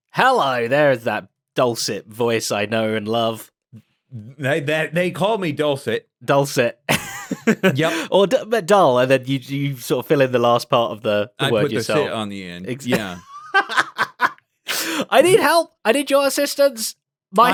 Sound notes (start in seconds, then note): 6.9 laughs; 12.8 laughs